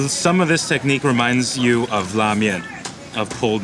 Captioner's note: speaking in foreign language